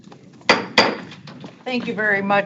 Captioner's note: gavel banging